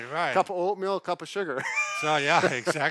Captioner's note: laughs